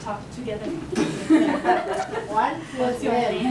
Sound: laughs

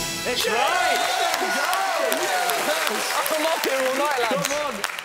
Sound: whooshing; cheering

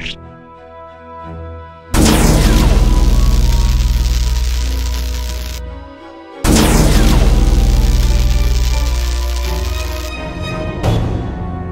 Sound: the machine powers up

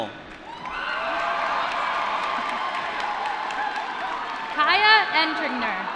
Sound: applause

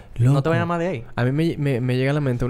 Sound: none

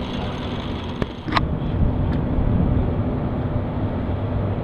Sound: wind

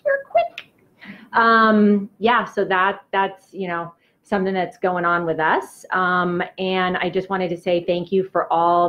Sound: normal speaking

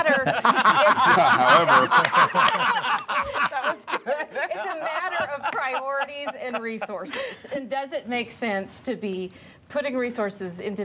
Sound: laughter

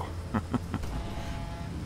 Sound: chuckles

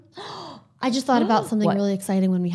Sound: sighs

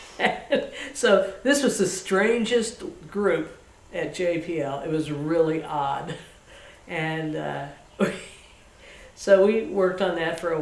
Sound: laughs

